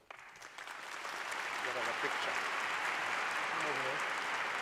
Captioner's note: applause